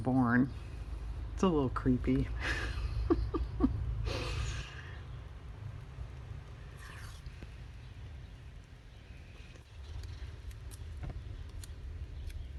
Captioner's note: laughs